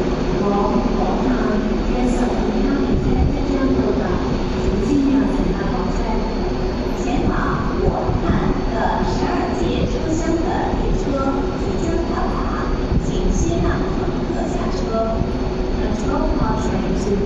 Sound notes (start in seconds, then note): 0.2 Cantonese; 6.5 Mandarin